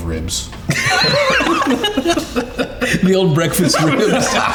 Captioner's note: all laughing